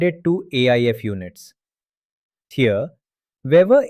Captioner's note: pause